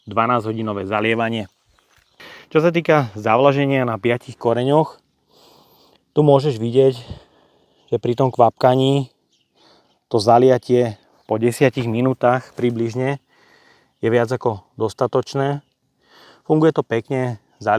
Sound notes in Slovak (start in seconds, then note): 5.3 smrkanie